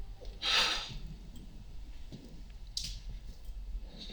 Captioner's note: Brown sighing